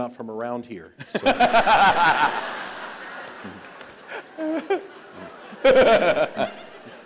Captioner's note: laughs